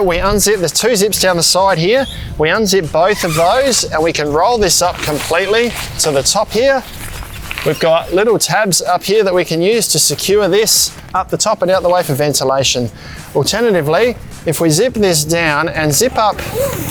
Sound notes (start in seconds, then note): 7.0 crinkling polyester; 15.9 zipper sound